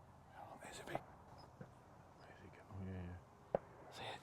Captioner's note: whispering